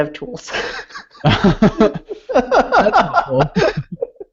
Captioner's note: laughing